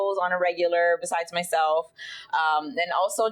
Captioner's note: none